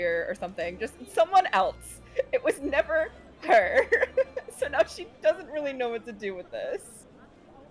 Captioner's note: laughs